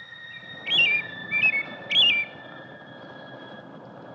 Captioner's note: bird chirping